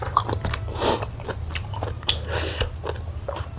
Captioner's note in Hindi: नाक से की जाने वाली आवाज़